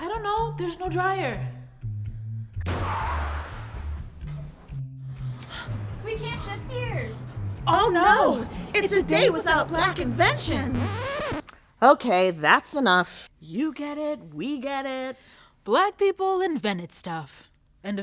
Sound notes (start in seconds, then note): 2.6 car crash